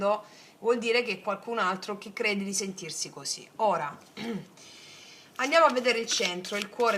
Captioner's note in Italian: schiarire la voce